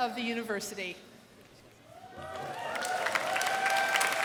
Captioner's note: cheers and applause